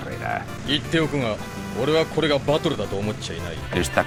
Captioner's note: in Japanese